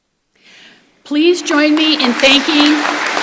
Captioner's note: applause